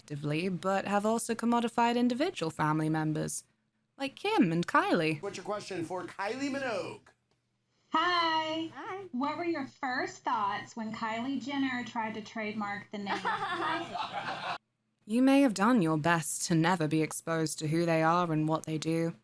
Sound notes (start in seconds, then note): 13.1 cackles